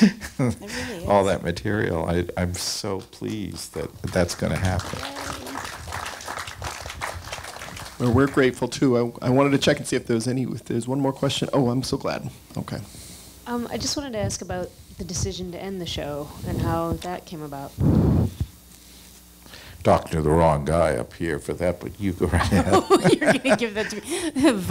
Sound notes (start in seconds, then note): 0.0 laughs; 3.6 applause; 22.4 laughing